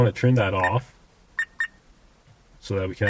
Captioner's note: dash cam beeps